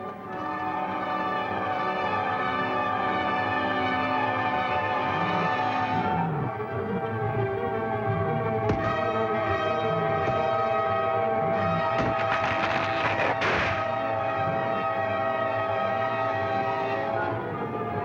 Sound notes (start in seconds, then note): 0.3 dramatic music; 8.7 thud; 12.3 tree creaking